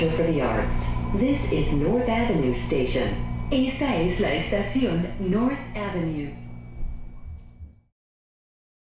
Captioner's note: repeated in Spanish